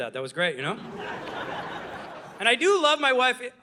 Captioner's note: audience laughing